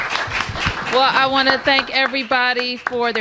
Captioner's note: applause